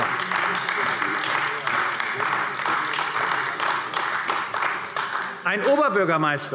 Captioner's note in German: Beifall AfD